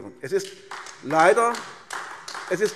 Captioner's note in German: Beifall AfD